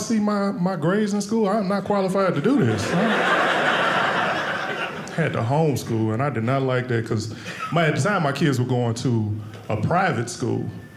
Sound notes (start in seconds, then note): 2.6 audience laughing